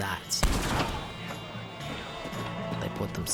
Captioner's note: gunshot followed by screaming